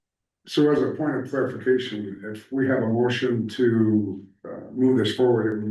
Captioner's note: clears throat